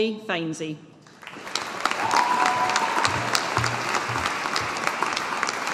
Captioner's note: audience applauding